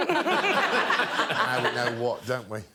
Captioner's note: laughter